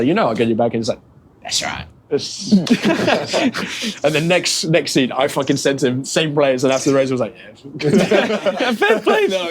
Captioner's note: laughter